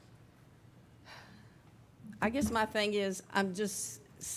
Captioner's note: sighs